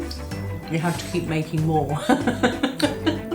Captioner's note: laughs